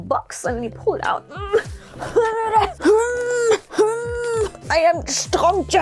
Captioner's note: struggles